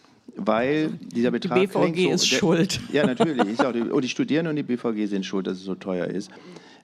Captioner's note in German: gelächter